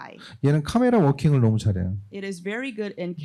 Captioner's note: speaking korean